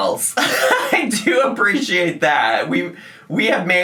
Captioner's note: laughs